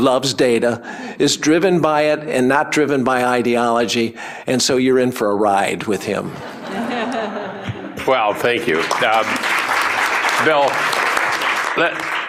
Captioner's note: applause